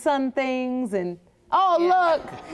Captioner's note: chuckles